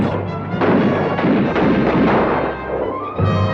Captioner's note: guns fire